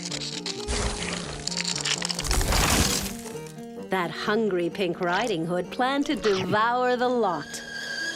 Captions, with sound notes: THAT HUNGRY PINK RIDING HOOD PLANNED TO DEVOUR THE LOT. (kettle whistles)